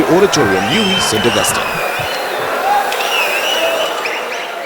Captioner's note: wild applause and cheering for 22 seconds